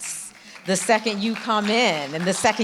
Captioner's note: audience clapping